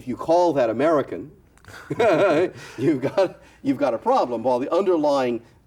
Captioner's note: laughs